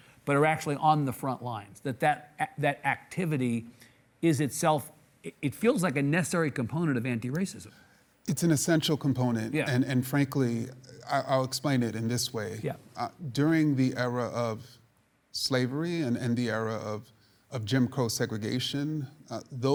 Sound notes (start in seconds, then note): none